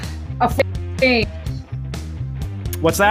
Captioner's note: distorted audio